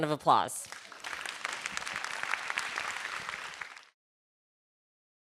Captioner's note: everybody clapping